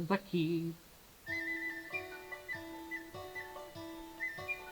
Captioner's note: bird chirps